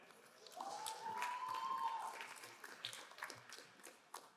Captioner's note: crowd applauding